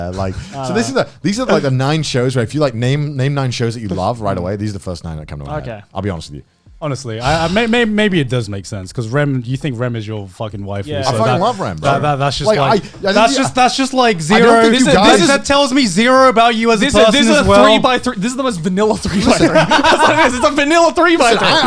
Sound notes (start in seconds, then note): 12.2 both mumbling; 19.0 laughter drains speech